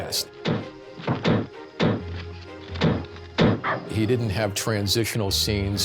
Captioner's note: muffled gunshots